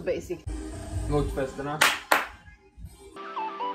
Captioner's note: applause